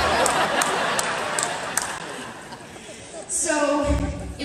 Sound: audience laughter

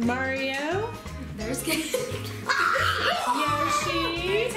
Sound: shouting

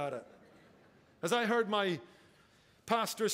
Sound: congregation laughing

